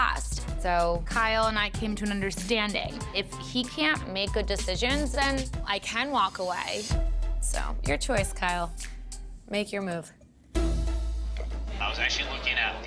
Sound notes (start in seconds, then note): none